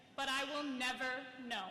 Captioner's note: none